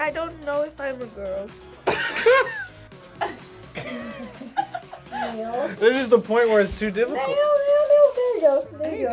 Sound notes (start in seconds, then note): 1.8 both laugh